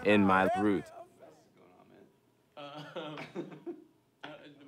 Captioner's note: men laugh